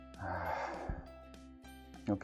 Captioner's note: sighs